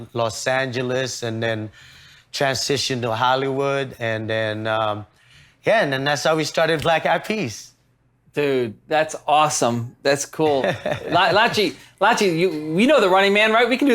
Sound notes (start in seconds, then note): 10.4 laughs